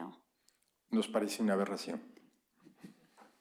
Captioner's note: spanish